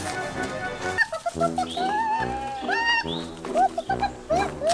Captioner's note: chicken cuckoos